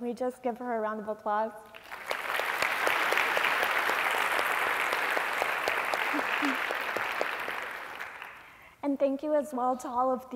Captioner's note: applause